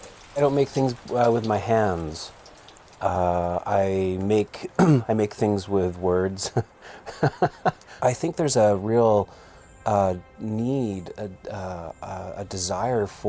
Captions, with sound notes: - I don't make things with my hands. I make things with words. (laughs) I think there's a real need, a desire for authenticity